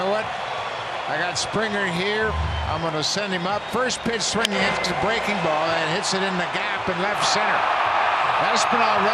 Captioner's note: cheering